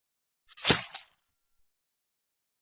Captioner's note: stab